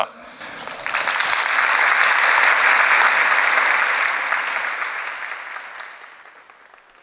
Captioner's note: applause